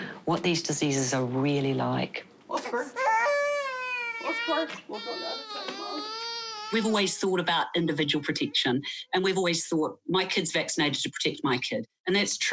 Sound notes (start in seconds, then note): 2.6 baby cries